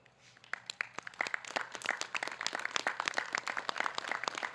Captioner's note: audience clapping